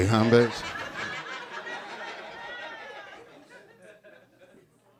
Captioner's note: audience laughing